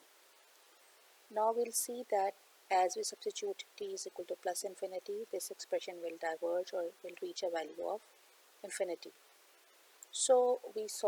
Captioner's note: unstable signal